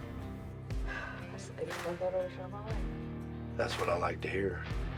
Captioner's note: sighs